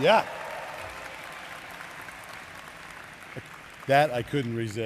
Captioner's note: applause